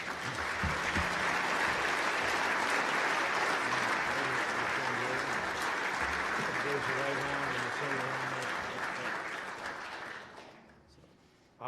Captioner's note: applause